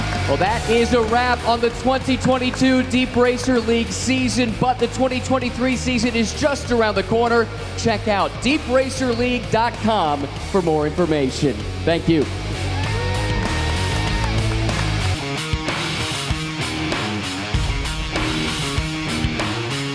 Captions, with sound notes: Well, that is a wrap on the 2022 DeepRacer League season, but the 2023 season is just around the corner. Check out deepracerleague.com for more information. Thank you. (crowd cheering) (intense music)